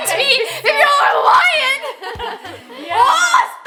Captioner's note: laughs